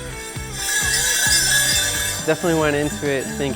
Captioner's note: bells ringing